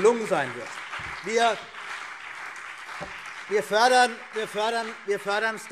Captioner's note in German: Beifall CDU und BÜNDNIS 90/DIE GRÜNEN